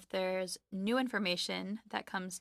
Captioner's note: speaking French